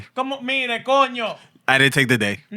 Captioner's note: speaking Spanish